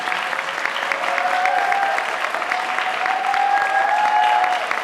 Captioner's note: audience applauding